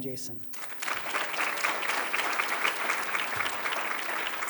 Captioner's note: applause